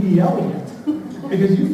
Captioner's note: laughter